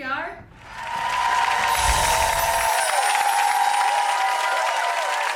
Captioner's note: audience applauding